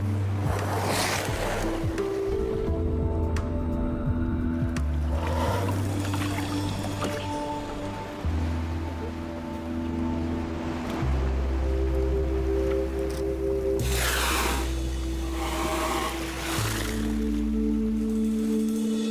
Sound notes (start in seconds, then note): 2.6 gentle music continues; 14.1 water splashing